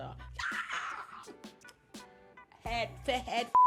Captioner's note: screaming